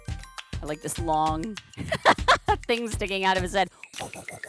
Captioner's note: laughs; makes helicopter noises